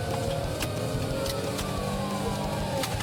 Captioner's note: siren blaring